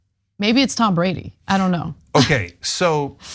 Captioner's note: laugh